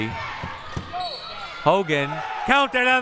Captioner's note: whistle blowing